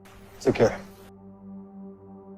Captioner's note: voiceover